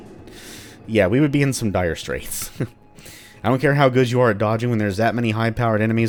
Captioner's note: chuckles